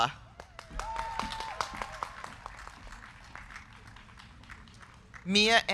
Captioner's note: crowd cheering; crowd clapping